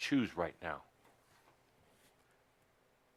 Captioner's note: silence for about a minute